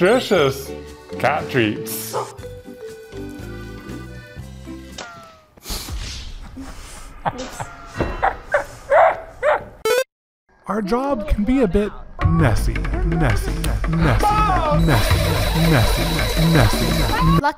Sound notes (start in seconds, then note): 3.4 lighthearted music; 7.2 laughing; 9.8 video game beeping